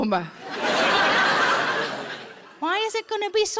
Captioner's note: audience laughs